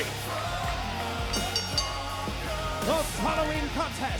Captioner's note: bell rings